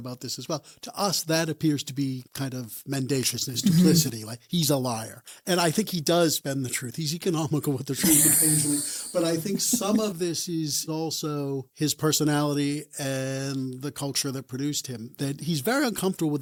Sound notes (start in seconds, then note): 8.0 laughs